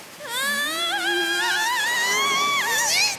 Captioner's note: Yagi and Maruo screaming